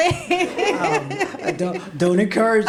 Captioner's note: laughs